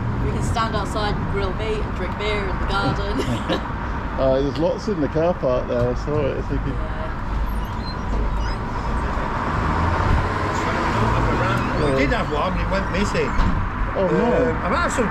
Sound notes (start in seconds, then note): 2.7 laughs; 7.3 door squeaks